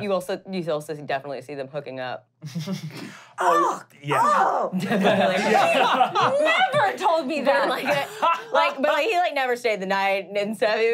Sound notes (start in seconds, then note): 2.9 laughing; 3.4 screams in disgust